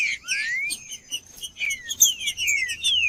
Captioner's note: trinca ferro cantando